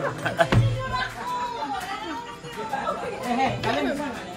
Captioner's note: laughing; people makes noise